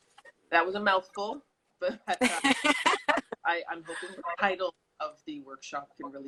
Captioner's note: laughs